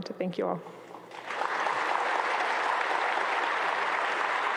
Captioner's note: audience applauds